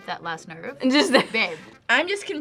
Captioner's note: laughs